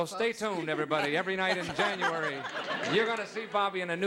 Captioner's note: laughing